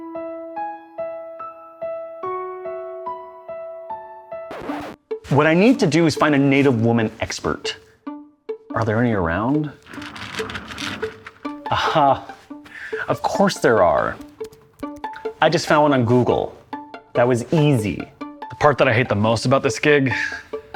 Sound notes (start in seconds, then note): 4.5 record scratching; 14.3 keyboard clacking